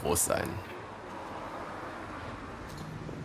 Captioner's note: rapid traffic noise